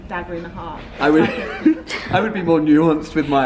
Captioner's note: laughter